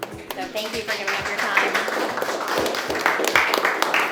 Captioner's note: applause